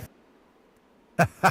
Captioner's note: laughs